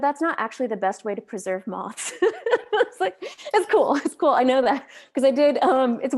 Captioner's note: laughs